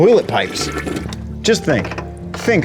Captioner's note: water flushing